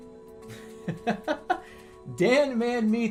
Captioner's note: bursts out laughing